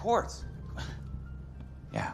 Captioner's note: scoffs